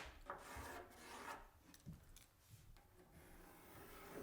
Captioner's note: pencil scratching